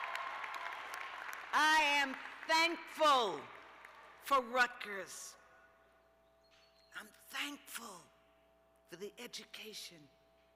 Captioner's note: cheers and applause